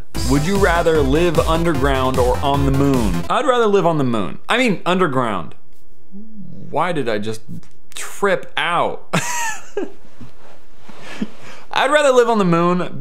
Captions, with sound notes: Would you rather live underground, or on the moon? I'd rather live on the moon, I mean underground. Why did I just Trip out *Laughs* I'd rather live on the moon